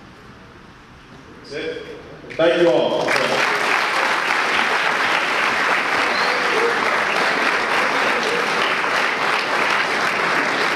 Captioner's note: audience applause